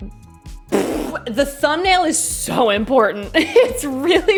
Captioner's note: blows raspberry